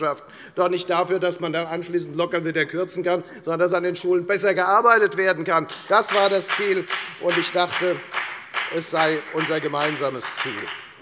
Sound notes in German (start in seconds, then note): 5.6 Beifall bei der FDP